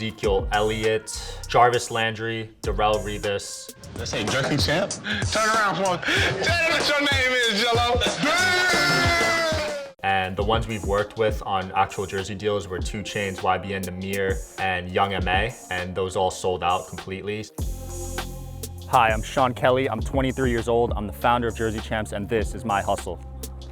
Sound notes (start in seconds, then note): 8.4 yelling; 17.7 soft hip hop music